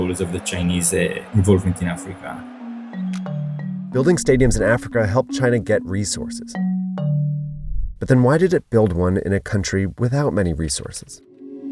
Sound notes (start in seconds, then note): 1.4 eerie music; 2.5 crowd cheering; 11.2 eerie music